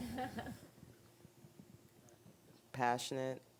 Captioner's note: woman laughing